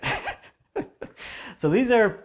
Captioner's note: laughing